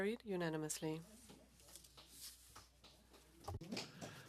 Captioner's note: speaking French